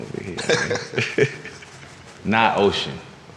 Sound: laughs

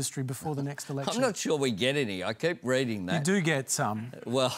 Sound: chuckles

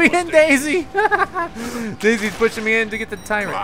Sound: giggles

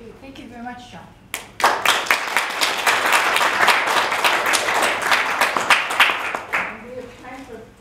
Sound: applause

